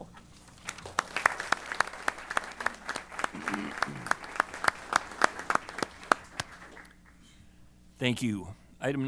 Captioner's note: applause